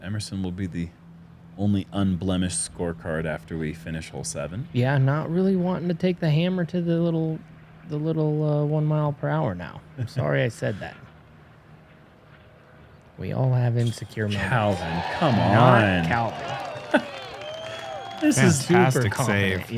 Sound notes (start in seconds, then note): 13.8 crowd cheering